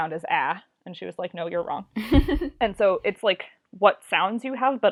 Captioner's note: laughs